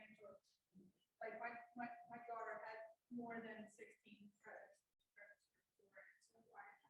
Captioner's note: voice muffling